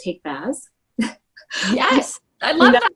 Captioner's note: laughing